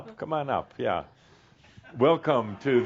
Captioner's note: chuckles